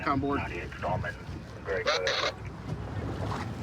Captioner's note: radio communication